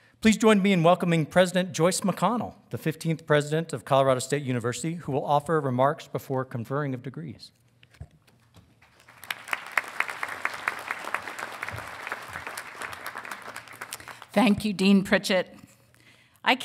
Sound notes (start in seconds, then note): 8.8 audience applauding